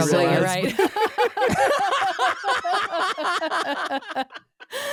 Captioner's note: laughing